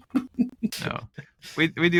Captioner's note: laughing